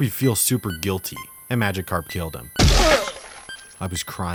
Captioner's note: screams